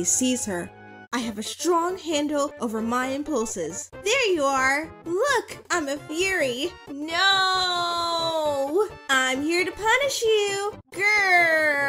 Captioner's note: dramatic reading